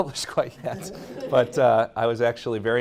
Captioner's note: audience laughing